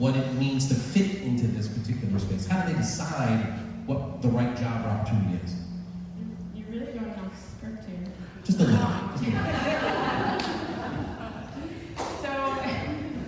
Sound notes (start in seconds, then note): 11.0 audience laughs